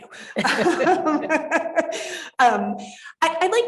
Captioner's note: moderator chuckling